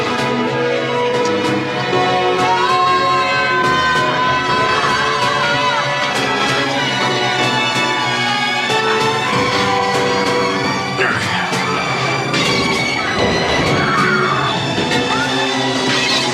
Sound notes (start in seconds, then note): 2.3 wailing; 12.0 woman screaming